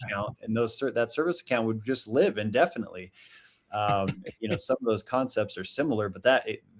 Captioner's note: chuckles; chuckles